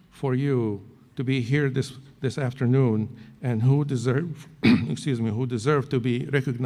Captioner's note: clears throat